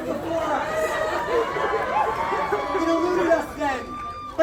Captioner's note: crowd cheers, yells